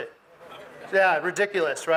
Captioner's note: audience mumbles